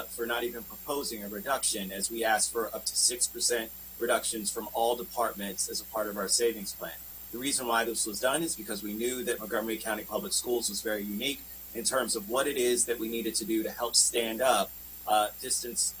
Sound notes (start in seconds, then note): 0.6 spanish